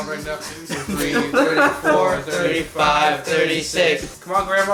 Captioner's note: laughs